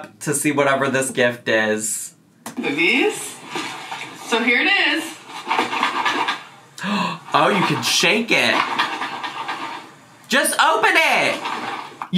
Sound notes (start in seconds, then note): 5.6 box rattling; 6.7 gasps